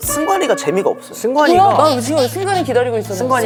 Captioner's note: crying